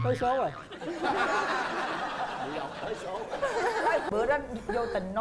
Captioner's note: laughing